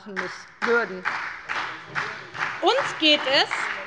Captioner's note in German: Beifall bei Abgeordneten der SPD und der LINKEN